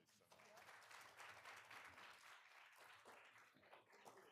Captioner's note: people clapping